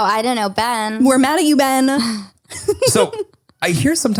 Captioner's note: laughs